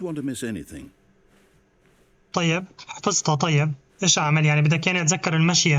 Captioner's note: footsteps